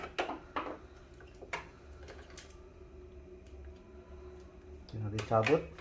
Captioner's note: damper sound